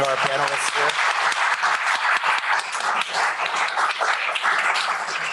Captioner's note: applause